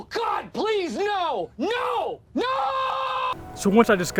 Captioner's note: shouting